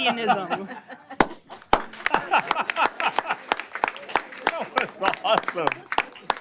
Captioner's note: applause